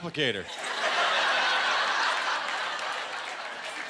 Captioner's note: laughter